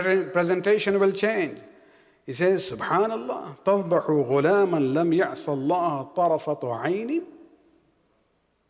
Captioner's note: arabic